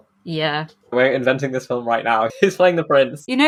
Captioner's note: laughing